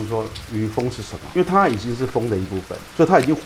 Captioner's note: rain